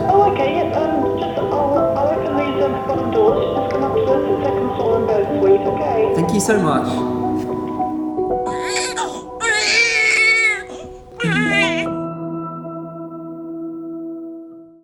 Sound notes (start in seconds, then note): 8.4 baby crying; 11.2 gentle instrumental music